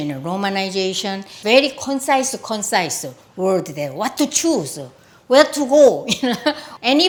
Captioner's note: laughs